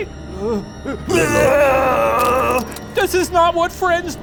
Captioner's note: flea retches